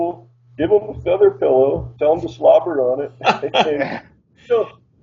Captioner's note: laughs